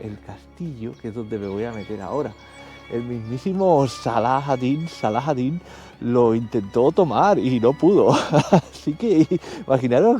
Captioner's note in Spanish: risas